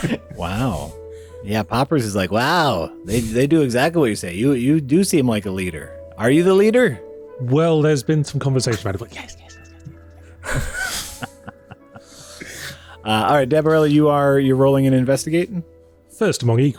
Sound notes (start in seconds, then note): 13.2 whispering